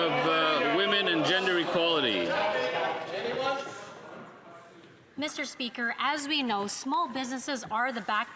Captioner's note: some Applause